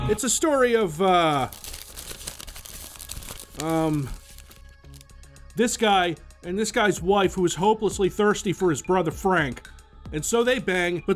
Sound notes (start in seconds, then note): 1.2 shuffles paper